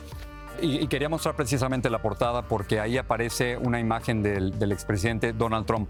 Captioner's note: speaks in foreign language